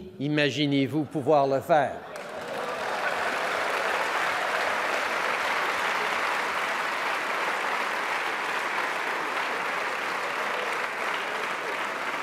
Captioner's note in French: Applaudissements